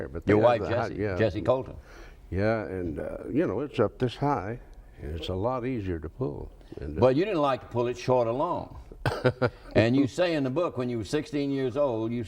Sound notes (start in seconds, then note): 9.0 laughs